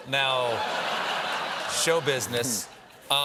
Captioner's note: laughter